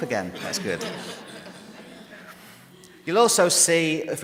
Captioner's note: audience laughing